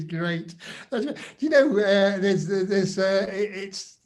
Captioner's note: laughs